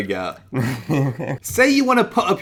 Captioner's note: laughing